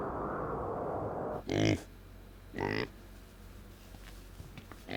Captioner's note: wind blowing; pig oinks